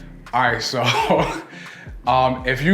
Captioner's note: laughs